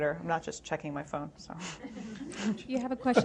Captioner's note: laughter